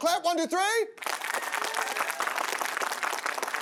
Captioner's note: audience applaud